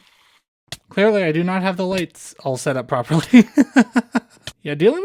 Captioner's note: laughter